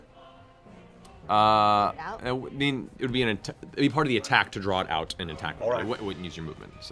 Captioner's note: none